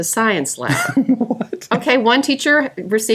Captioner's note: laughing